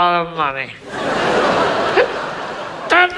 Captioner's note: audience laughs